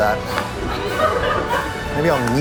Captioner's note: laughter